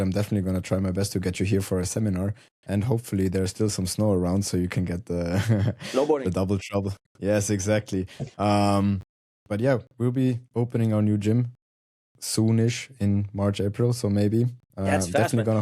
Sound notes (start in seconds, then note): 5.3 chuckles